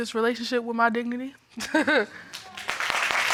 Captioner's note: chuckles; audience applauding